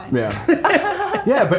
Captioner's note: all laughing